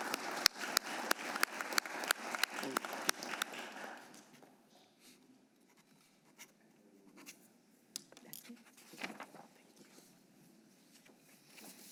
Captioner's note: applause